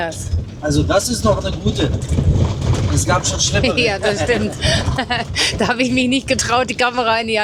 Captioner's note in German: gelächter